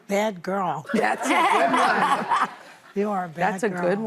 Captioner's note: audience laughing